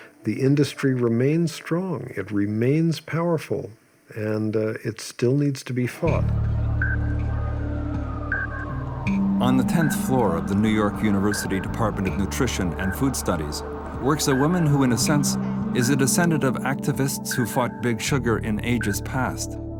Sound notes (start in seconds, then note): 6.3 dramatic music; 7.9 siren wailing